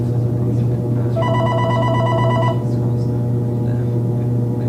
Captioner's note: phone ringing